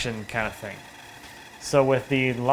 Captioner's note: band-saw quietly whining